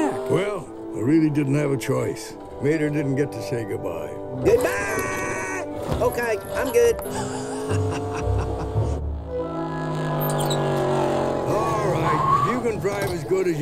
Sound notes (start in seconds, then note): 7.0 Lightning laughs